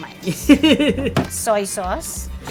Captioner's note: laughing